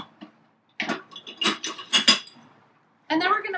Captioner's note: clanking noises